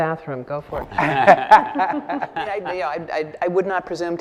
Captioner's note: laughing